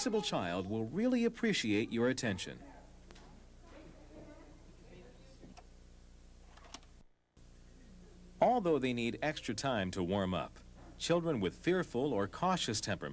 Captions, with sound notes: will really appreciate your attention. [silence] Although they need extra time to warm up, children with fearful or cautious temperaments